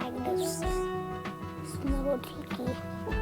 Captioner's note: audio distortion